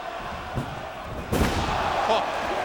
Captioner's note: Tanaka thuds